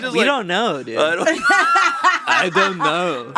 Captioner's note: laughing